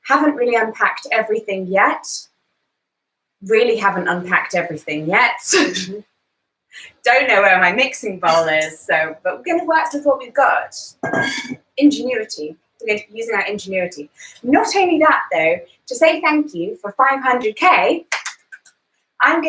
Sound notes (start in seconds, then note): 5.4 laughs; 11.1 bowl clangs; 18.1 hands clapping